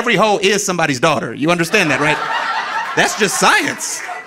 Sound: audience laughing

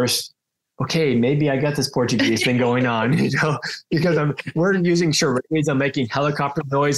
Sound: laughs

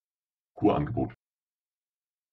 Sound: fast Pronunciation

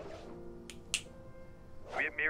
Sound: fingers clicking

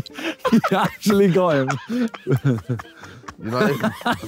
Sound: laughing

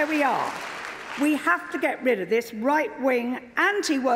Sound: applause

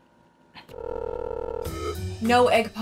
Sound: phone rings

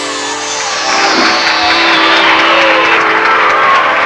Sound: crowd cheering

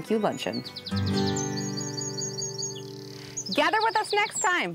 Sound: birds chirping

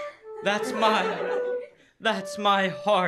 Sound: laughter

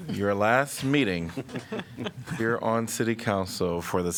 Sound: laughter

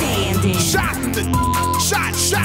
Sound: beep

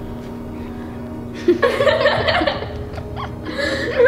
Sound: laughing

